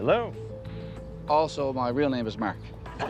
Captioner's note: laughter